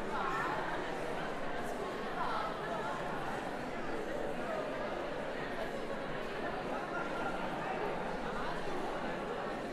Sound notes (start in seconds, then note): 3.0 background conversations